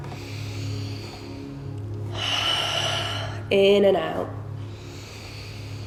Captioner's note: heavy breathing